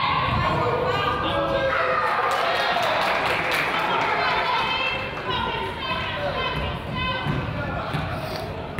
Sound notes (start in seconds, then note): 2.0 crowd applauds; 4.8 coach yells